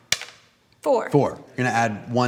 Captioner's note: die clacking